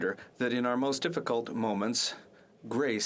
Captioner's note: speaking French